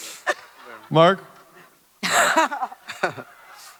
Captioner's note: Fisher laughs